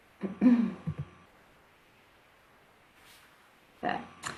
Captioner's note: throat clearing